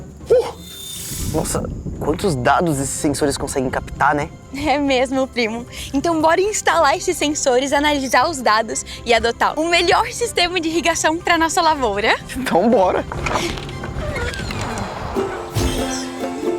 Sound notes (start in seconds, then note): 12.8 fence creaking